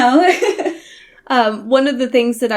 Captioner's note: laughs